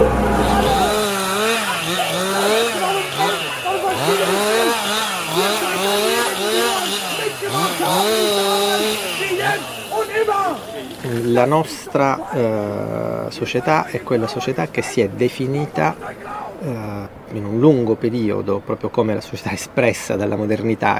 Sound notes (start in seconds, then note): 1.6 chainsaw sounds; 1.6 guy yelling in German